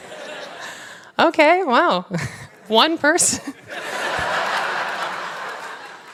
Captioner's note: laughter